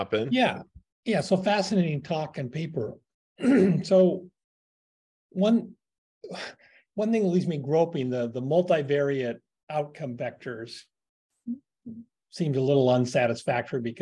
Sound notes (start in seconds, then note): 3.4 cough